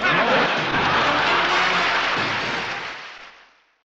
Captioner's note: audience laughs